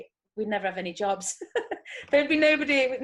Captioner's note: chuckles